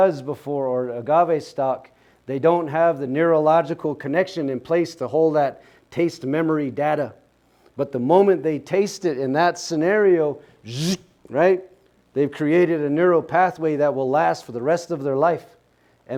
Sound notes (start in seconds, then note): 10.7 zipping sound